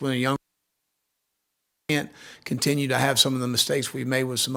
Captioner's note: audio cutting out